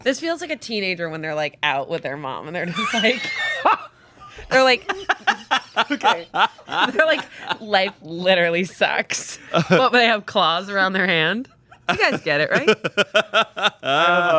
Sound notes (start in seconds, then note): 3.1 wheezing; 4.2 laughing; 12.5 laughing